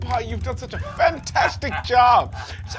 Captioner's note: laughing piratically